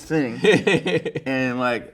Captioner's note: laughing